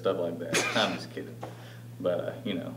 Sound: laughing

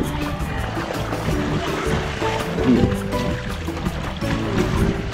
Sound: water splashing

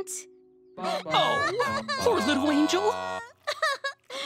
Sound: crying

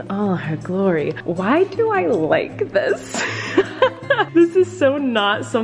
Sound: laughs

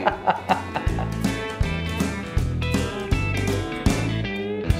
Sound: laughs

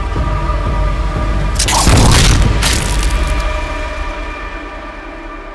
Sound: explosion blasts

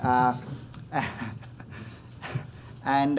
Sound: chuckles

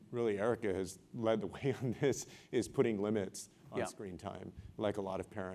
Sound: laugh

